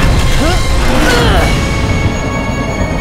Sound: grunting

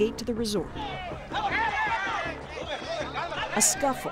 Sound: men arguing

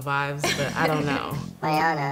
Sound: chuckles

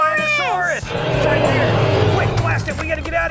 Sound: dinosaur roaring

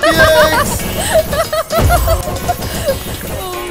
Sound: laughs

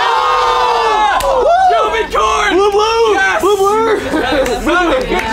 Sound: team Jovencorn cheers

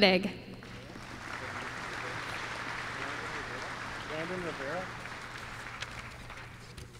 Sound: applause

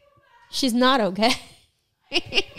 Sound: laughs

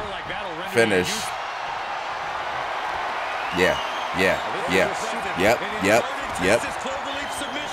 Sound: applause

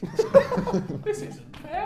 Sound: laughs

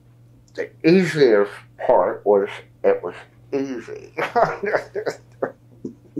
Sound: laughs

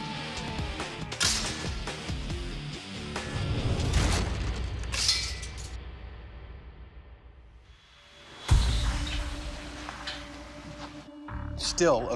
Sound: ropes snapping

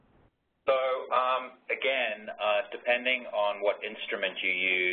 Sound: voiceover

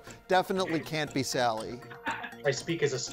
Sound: laughing

